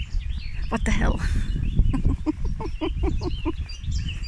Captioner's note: laughing